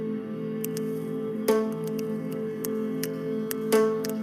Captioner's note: finger snaps